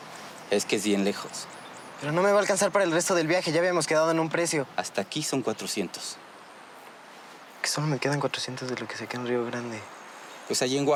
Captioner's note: speaking in Spanish